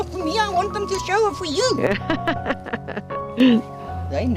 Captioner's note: laughter